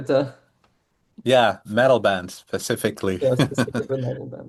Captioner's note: chuckles